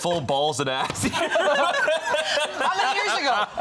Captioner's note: all laughing